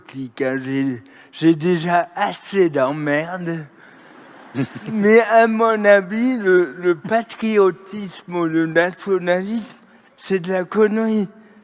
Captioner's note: laughter